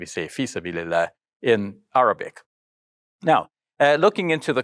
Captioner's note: speaking in Arabic